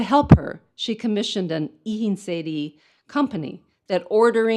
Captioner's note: speaks in foreign language